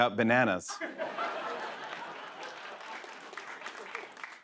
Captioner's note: laughter